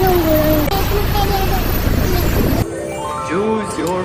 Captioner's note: chatting